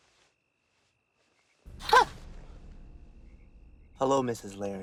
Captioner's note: gasps